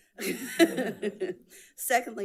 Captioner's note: audience laughs